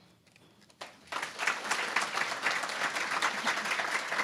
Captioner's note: applause